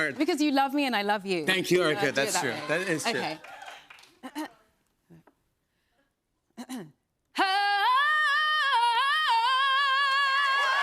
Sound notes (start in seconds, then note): 4.1 clears throat; 10.1 cheers and applause